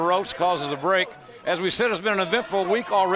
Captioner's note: crowd cheering